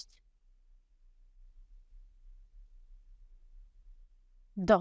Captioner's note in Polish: cisza